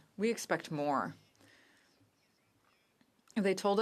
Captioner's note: speaking French